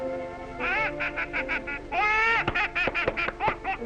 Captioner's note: laughing